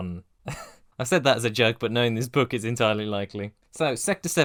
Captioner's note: chuckle